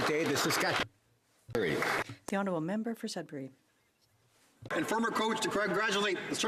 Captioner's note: some Applause